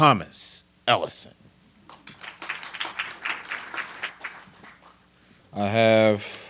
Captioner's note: applause